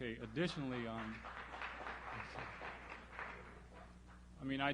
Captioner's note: applause